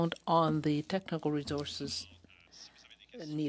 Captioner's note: speaking French